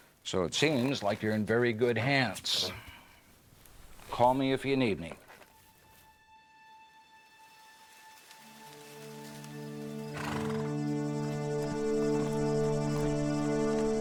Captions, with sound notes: So it seems like you're in very good hands. Call me if you need me. [Quiet Music] [ Wind ]